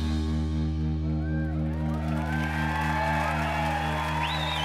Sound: cheers and applause

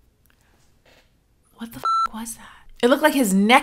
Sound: beep

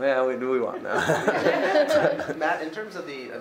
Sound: many laughing

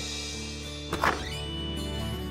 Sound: door opens

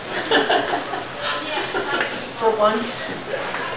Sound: woman laughing

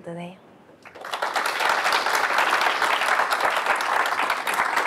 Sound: applause

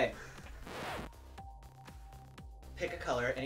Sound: scratched record

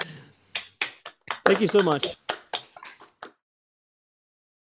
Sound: laughing

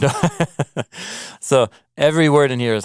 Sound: laughing

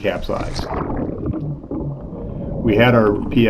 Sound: water gargling

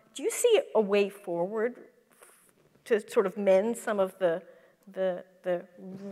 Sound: none

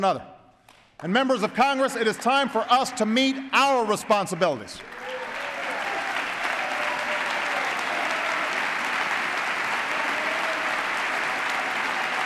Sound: applause

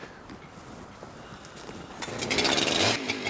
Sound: engine noise

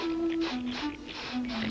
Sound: sniff sniff

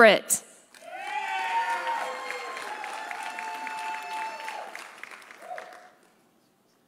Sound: audience applauding; audience cheering

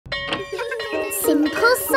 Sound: bell tolling; children laughing

